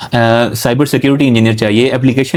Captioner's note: nasal sound